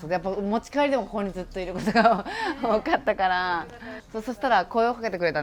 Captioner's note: laugh